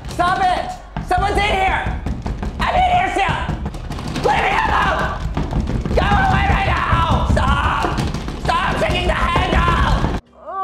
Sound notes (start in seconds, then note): 3.5 knob aggressively jiggling; 10.4 woman groans deeply